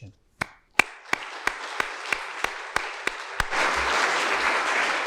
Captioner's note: attendees applauding